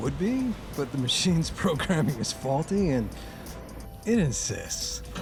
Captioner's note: chuckling